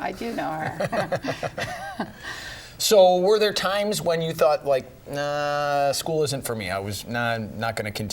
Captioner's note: laughter